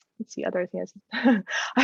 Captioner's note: laughter